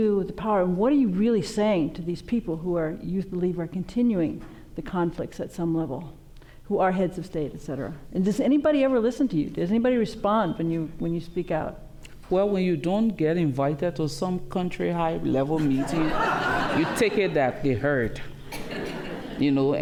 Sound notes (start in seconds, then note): 15.6 laughter